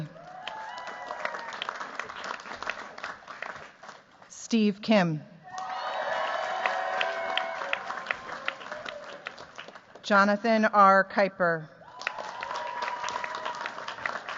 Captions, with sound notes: [CHEERS, APPLAUSE] Steve Kim. [CHEERS, APPLAUSE] Jonathan r. Kuiper. [CHEERS, APPLAUSE]